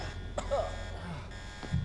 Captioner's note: alarm blaring; Daniel coughs; Daniel groaning